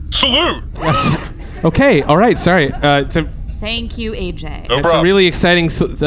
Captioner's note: laughing